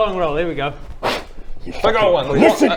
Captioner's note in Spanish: sopla